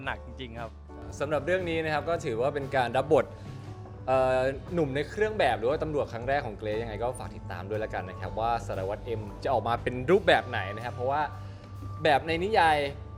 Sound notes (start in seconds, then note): none